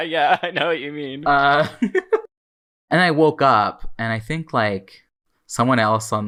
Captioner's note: laughing; laughs